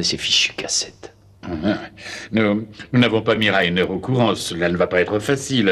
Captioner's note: laughs